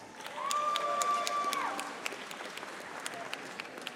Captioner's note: audience applauding